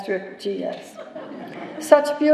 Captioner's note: laughter